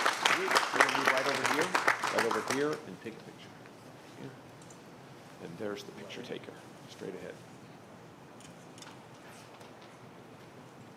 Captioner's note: applause